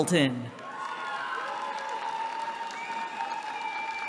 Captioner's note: cheering